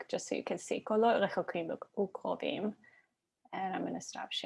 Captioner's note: Hebrew